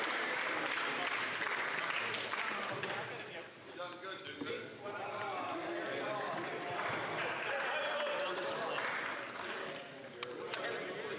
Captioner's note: applause